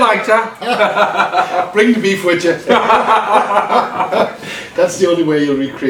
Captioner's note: laughs